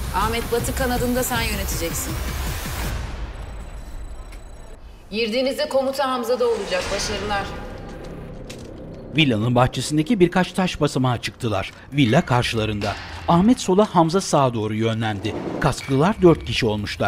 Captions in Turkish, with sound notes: Ahmet, batı kanadını da sen yöneteceksin. (Gökçe dış ses) Girdiğinizde komuta Hamza'da olacak. Başarılar.